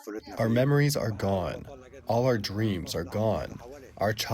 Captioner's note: through translator